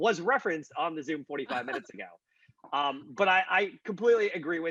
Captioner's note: laughing